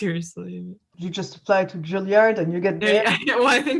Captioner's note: laughs